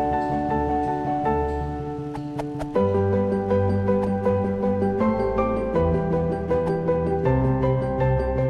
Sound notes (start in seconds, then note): 2.1 phone whooshes